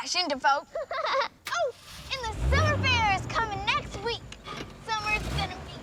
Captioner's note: giggling